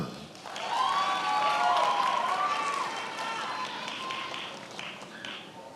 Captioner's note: attendees applauding and cheering